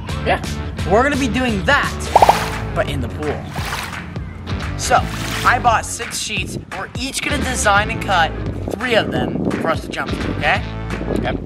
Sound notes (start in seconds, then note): 3.4 water splashing